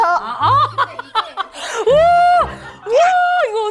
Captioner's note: A hearty laugh